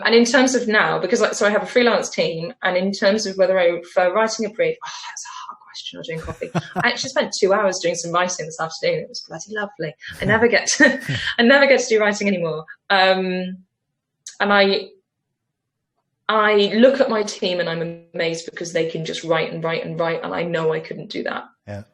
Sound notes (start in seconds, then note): 6.1 laughs; 10.0 laughs